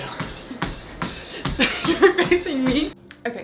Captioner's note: laughs